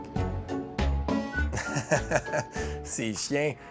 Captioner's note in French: rires